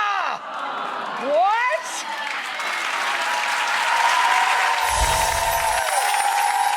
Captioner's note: audience applauding